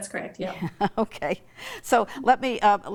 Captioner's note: laughs